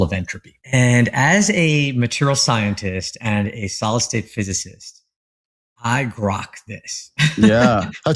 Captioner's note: laugh